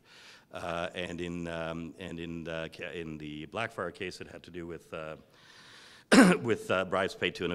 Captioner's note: cough